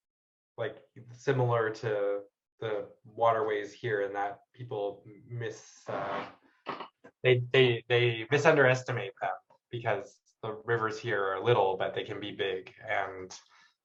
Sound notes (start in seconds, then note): none